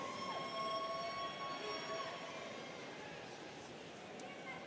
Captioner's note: students cheering